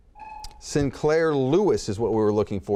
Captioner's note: beeps